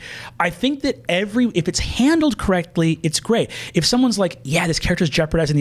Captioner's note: none